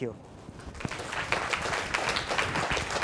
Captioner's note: applause